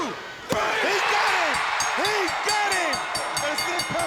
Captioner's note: bell ringing